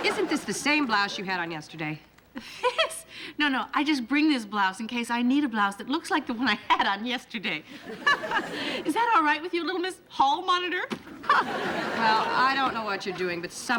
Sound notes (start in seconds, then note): 7.8 laughs